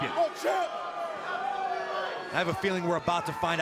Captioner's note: crowd chatter